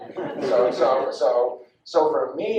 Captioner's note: audience laughs